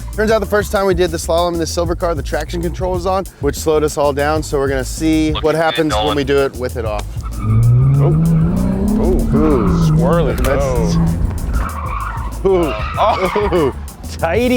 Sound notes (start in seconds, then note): 7.2 tires squealing; 11.4 tires squealing